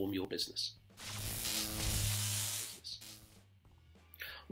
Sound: buzzing

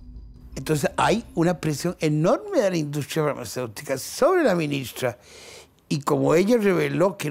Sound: Spanish

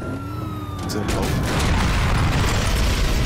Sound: explosion

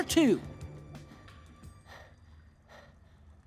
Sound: breathing heavily

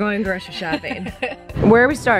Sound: laughs

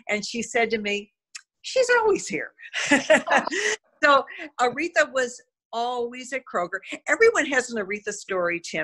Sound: laughter

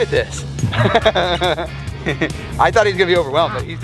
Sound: laughs

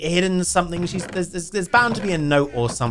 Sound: chest hinges creaking

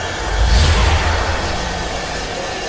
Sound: energy zaps

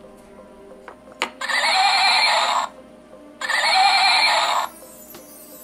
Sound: horse Sound

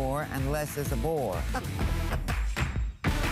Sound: laughter

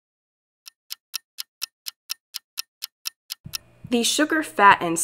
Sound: clock ticking

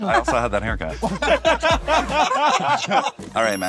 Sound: group laughs

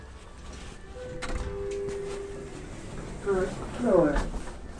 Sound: chime

